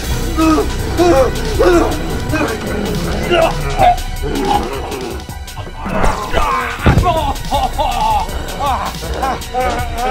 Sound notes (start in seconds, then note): 0.5 screams; 7.9 howling in pain